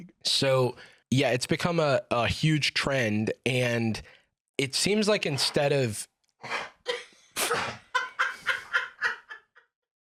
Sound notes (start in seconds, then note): 7.3 Dipper wheezes; 7.3 Dipper wheezing; 7.7 laughs